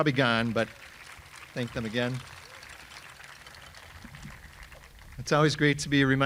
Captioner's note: audience applauding